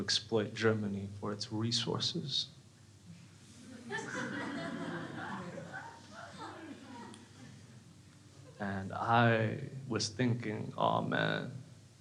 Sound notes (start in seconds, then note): 3.6 crowd laughing